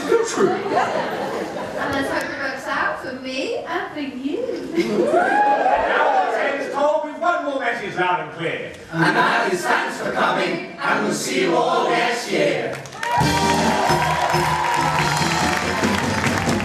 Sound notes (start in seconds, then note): 12.8 audience cheering; 16.1 audience clapping in time to music